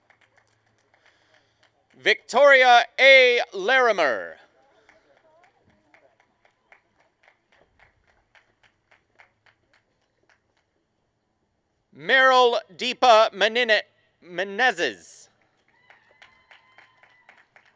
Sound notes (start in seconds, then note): 0.0 applause; 2.5 applause and cheering